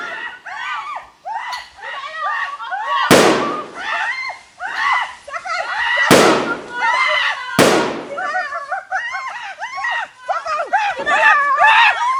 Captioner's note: animals screaming